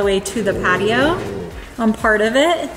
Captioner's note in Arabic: هدير الكلب